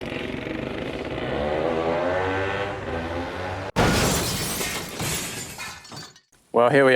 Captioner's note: 2 Stroke sounds